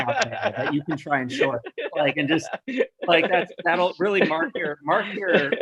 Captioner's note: chuckles